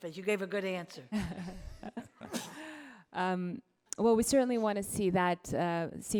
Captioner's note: laughs